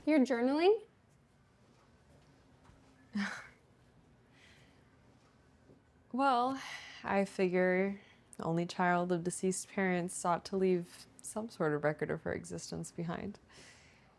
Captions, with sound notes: You're journaling? (Fern laughs) - Well, (sighs) I figure the only child of deceased parents ought to leave some sort of record of her existence behind.